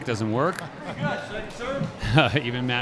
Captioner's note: laughing